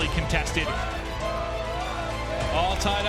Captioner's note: crowd chanting